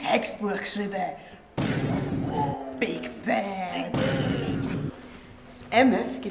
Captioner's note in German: Explosionsgeräusche